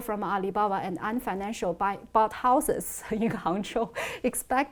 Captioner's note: laughs